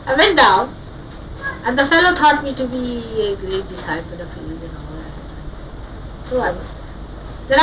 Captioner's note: laughing